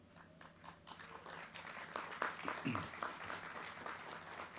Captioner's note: crowd clapping